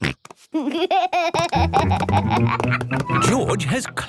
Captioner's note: snorts, giggles